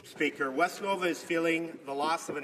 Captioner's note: speaking French